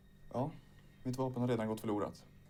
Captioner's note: speaking Swedish